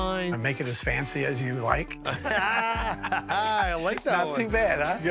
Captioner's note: both laugh